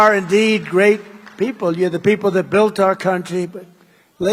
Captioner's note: applause